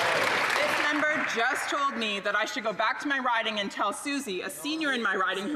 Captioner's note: applause